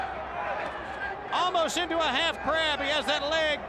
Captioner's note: crowd chatter